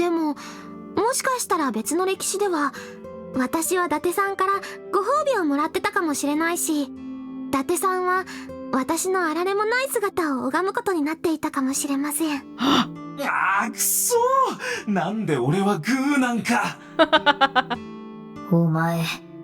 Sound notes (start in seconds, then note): 12.6 gasps; 16.9 chuckles